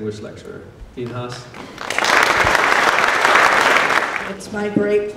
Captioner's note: applause